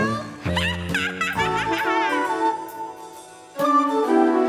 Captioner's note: witch cackles